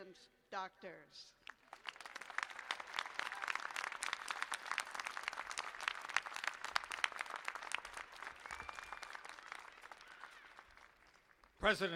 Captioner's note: applause